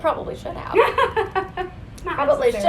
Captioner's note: laughs